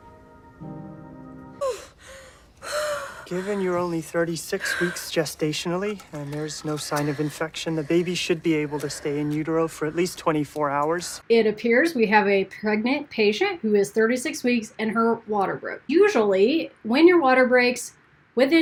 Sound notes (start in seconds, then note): 1.6 wheezing